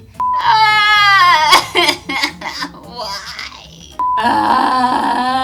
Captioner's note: crying; groaning